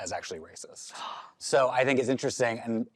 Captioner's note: gasps